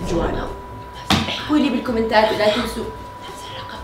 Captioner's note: whispering